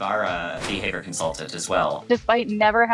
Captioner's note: capybara thudding